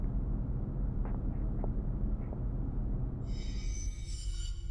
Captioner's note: footsteps